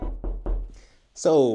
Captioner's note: knocking sounds